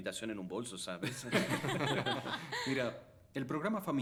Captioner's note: laughter